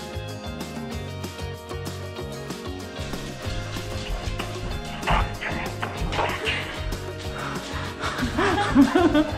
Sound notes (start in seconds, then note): 3.5 whispers; 8.0 laughter